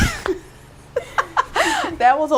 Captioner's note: laughing